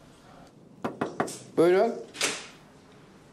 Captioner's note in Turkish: Kapı vuruldu